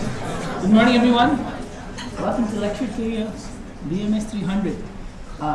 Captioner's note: general Classroom Noise